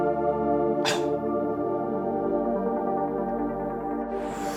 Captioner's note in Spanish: Quejidos